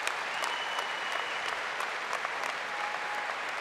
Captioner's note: applause